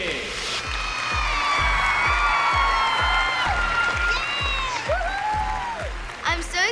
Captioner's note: cheers, applause